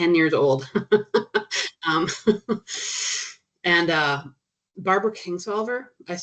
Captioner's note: chuckling